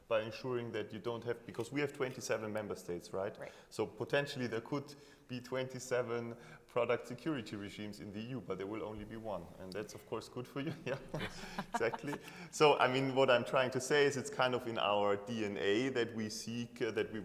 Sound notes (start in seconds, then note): 10.6 chuckling